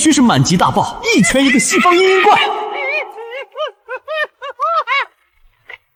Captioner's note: sobs